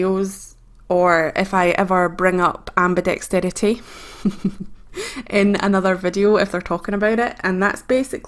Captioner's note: laughs